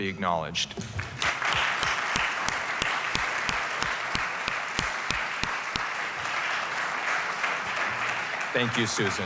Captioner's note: applause